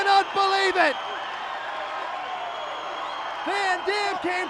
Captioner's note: crowd cheers